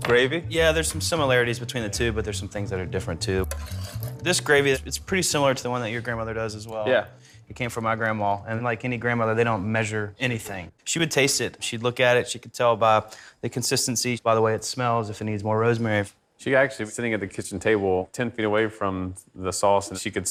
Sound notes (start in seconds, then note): none